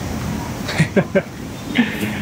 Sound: chuckles

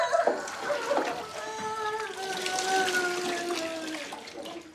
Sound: girl cries

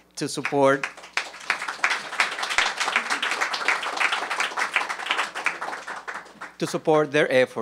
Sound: applause

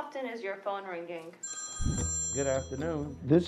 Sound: phone rings

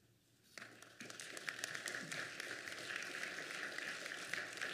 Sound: applause

